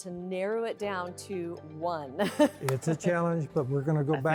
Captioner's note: chuckles